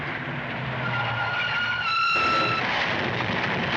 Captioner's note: tires Screech